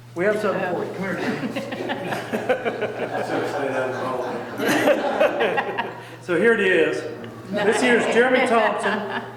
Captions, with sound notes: we have something for you. Come here. (people laughing) - I should have said that in public. (people laughing) So here it is, this year is Jeremy Thompson.